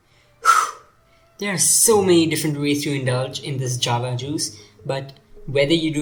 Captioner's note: phew